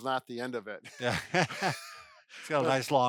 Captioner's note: laughing